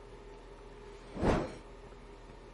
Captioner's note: woosh!